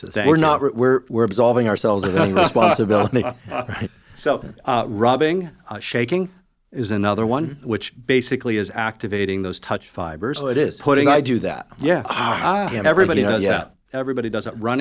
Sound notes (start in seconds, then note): 2.0 laughs